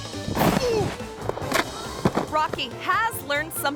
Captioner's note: groans